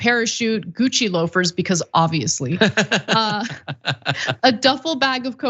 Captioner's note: laugh